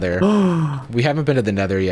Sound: gasping

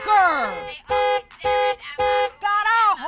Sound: honks multiple times

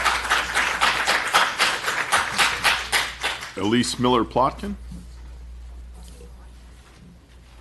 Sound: applause

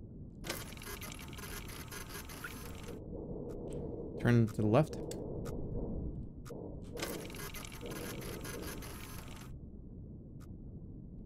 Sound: machine whirring

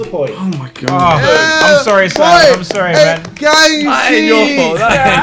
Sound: students applaud

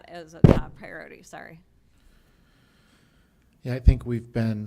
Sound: bumped mic

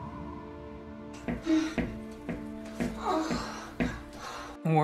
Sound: moans and bed rocking

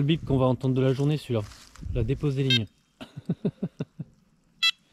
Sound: laughs

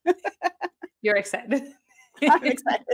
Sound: laughs; laughs

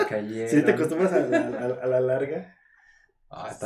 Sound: laughing & joking

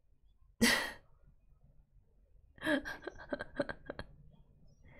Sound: laughs

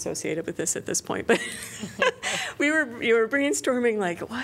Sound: laughter

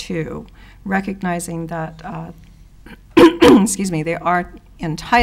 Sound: clears throat

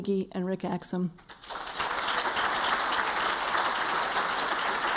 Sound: applause

